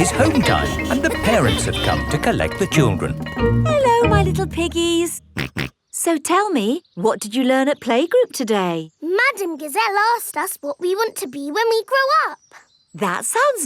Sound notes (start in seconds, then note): 0.0 school bell rings; 5.4 snorts